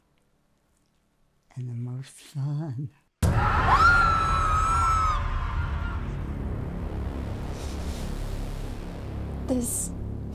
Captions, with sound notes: - Yes, and the most fun. (tense music) (person screaming)